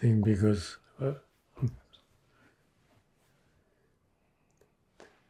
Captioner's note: pauses 4 seconds